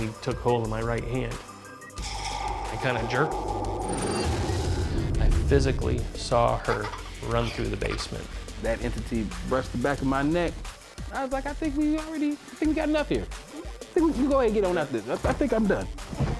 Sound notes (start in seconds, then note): 2.0 buzzing; 3.6 buzzing and whooshing; 6.6 child laughing